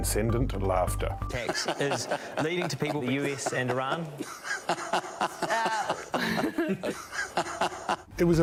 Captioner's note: cheery giggles and chortles